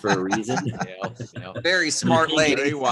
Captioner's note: chuckles